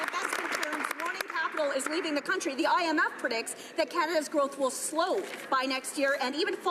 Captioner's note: some Applause